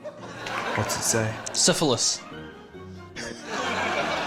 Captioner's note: laughs